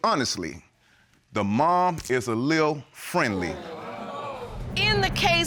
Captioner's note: audience groans